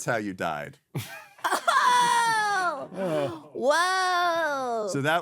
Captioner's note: laughing